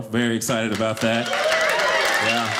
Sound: audience applauding

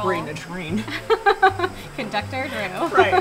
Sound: laughter

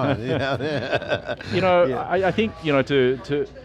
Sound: laughs

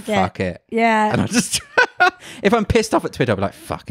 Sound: laughs loudly

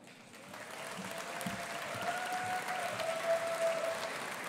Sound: audience applauding

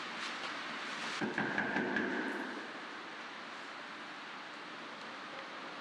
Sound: knocking on door

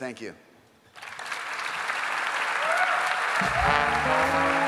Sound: applause

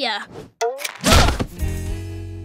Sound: groaning

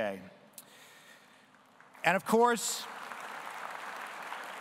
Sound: audience applauding

